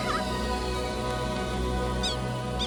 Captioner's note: squawks